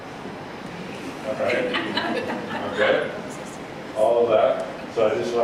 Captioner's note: laughing